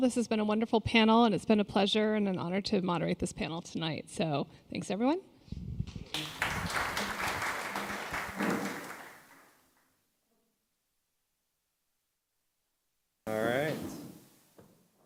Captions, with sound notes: This has been a wonderful panel and it's been a pleasure and an honor to moderate this panel tonight, so thanks everyone. [applause] 1:07:48 Alright.